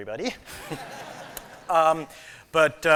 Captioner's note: laughter